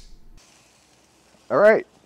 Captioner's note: burgers sizzling